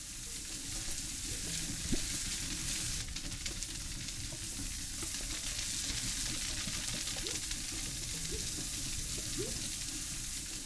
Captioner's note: soft Rain